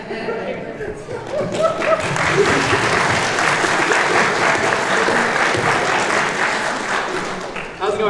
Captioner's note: applause